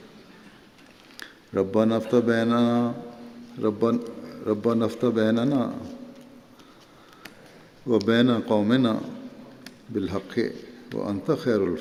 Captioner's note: Arabic